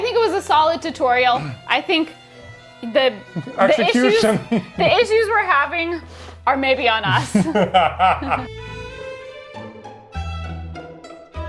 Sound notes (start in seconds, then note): 7.0 laughs; 7.3 spooky music